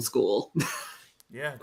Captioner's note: laughs